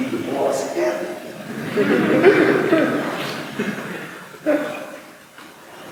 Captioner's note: laughter